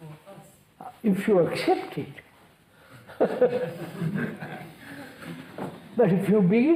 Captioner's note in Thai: หัวเราะ